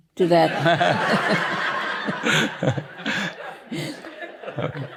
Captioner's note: laughter